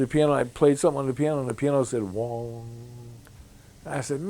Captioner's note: hums